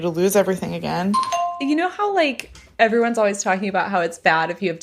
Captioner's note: bingbong